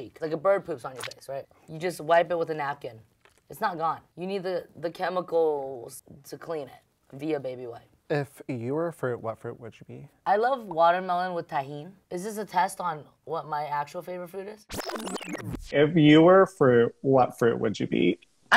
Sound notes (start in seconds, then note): 14.8 transition warbling